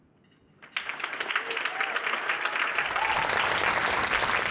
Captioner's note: cheering